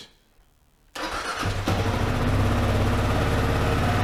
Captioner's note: engine starts